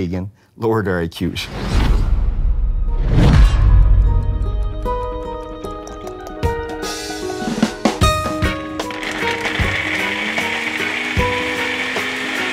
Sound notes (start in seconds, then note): 1.6 boom resounds; 1.8 clock ticking; 5.2 calm acoustic music; 8.8 blender rumbling